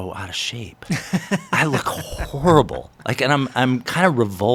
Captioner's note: laughs